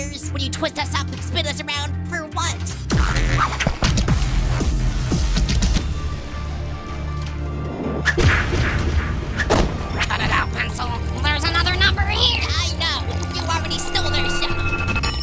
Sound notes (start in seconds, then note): none